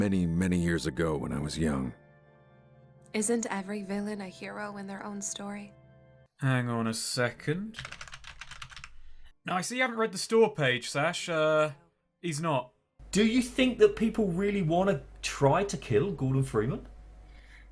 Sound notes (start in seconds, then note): 7.7 typing noises